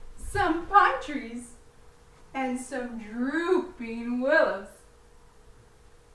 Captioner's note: walking